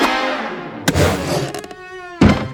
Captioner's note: none